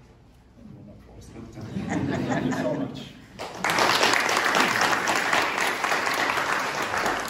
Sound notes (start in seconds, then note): 1.6 chuckling; 3.3 applause